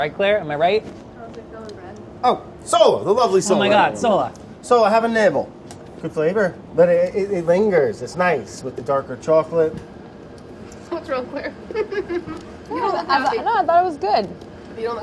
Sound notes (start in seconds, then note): 11.4 chuckles